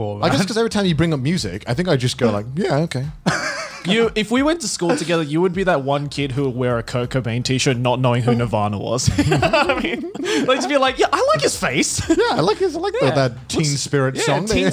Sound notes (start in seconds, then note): 9.1 laughs